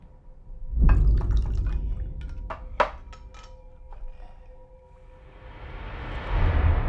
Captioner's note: dramatic music; liquor burbles; bottle clinks; dramatic music